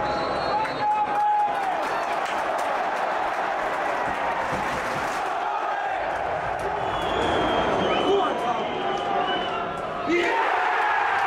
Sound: chanting and cheering

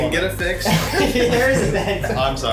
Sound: laughs

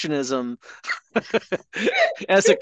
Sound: laughing

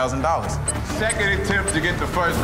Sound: digital beeping; dramatic music

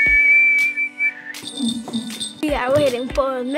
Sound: whistling; bells jingling

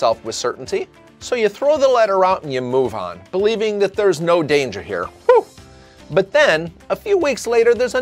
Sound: whew!

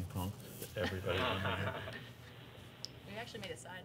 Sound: laughter

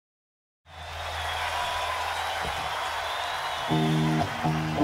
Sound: audience cheering

